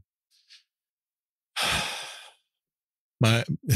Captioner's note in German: seufzt